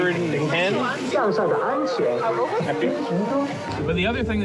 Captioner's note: announcements in Chinese